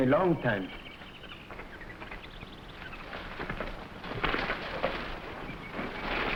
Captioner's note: animals chattering; plants rustling